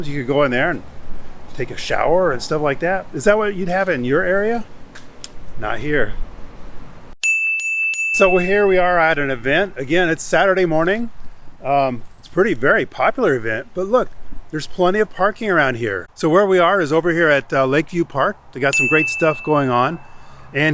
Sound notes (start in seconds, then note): 7.2 chime ringing